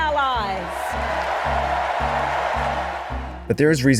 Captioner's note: crowd cheering